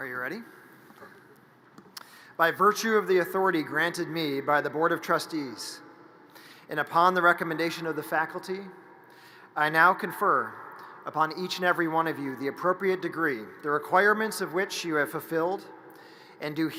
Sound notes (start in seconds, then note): none